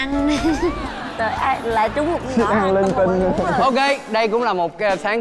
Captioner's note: laughing